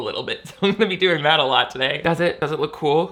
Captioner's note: laughs